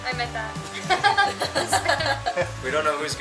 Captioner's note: laughter